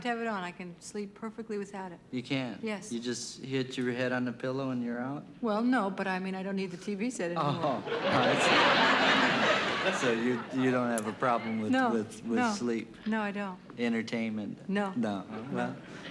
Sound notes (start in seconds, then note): 7.4 laughter